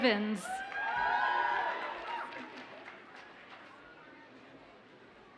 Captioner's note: audience cheers and applauds